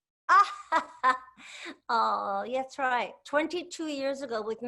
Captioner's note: laughs